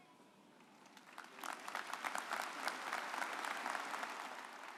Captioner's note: audience applauding